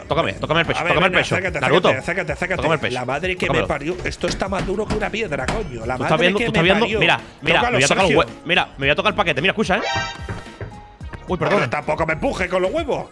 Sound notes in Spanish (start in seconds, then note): 9.8 golpea la mesa